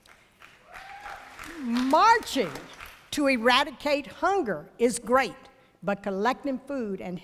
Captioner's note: applause